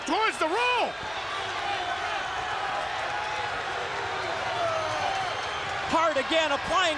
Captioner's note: applause